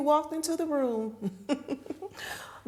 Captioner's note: chuckling